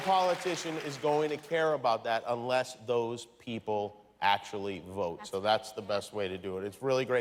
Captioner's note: cheers and applause